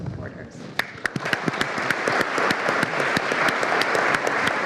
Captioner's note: all applauding